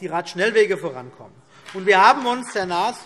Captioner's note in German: Beifall BÜNDNIS 90/DIE GRÜNEN und vereinzelt CDU